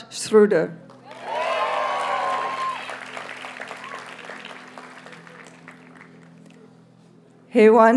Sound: audience cheers and applauds

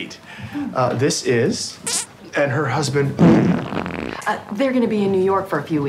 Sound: farts

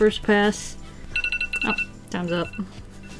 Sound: timer sounds

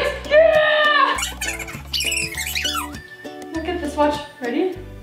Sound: fast forward squeak

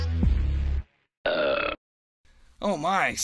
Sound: burp

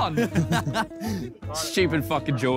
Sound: Chris laughing

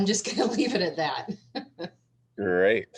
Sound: laughter

